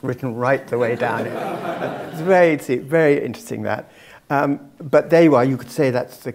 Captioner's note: laugh